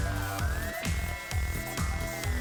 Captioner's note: beep sound